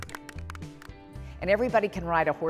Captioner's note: group applauds